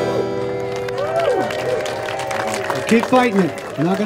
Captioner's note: audience applauding and cheering